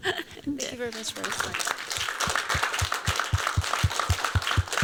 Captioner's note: applause